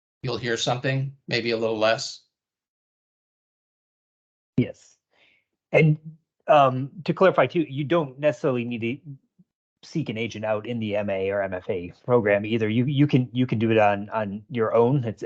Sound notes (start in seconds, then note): none